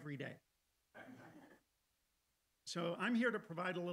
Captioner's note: audience laughing